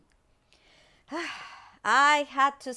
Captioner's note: abuela sighs